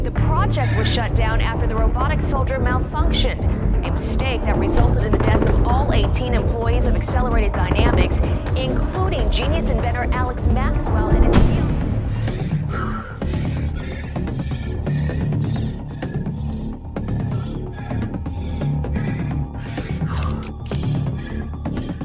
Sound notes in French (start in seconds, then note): 13.3 Halètement métallique